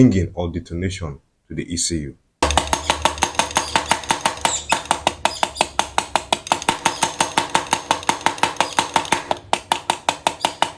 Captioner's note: 10 seconds unstructured hammering that increases in frequency